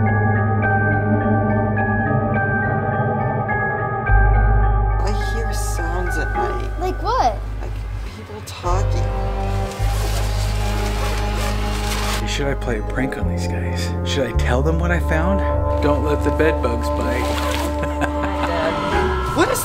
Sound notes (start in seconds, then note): 9.1 suspenseful music; 10.8 zipper unzipping; 17.6 laughing